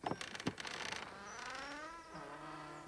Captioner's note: knocking; door creaks